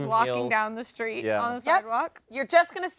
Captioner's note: none